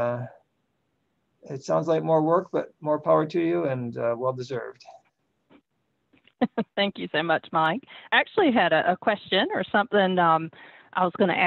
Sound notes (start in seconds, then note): 6.4 chuckle